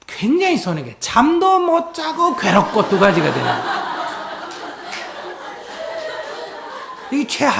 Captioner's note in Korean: 청중 웃음